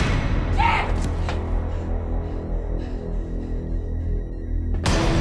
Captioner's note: Jim screams; panting; Gordon grunting; suspenseful music